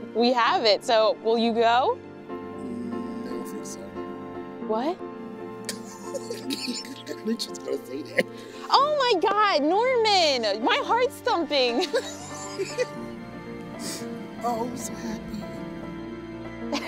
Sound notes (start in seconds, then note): 5.6 laughs